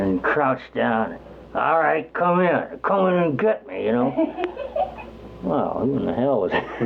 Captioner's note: giggles